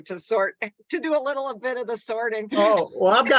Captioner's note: chuckles